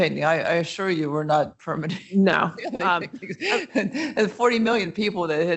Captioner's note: chuckles